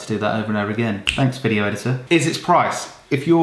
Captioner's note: snaps